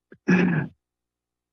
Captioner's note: coughs